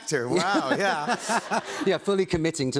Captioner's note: laughter